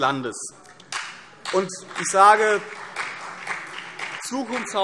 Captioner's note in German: Beifall CDU und BÜNDNIS 90/DIE GRÜNEN